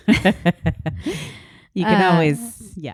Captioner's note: both laughing